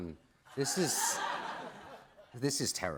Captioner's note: laughter